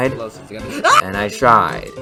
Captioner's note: scream of utter shock